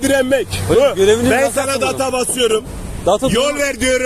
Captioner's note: horn